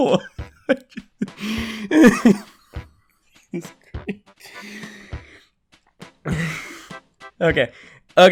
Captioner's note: laughter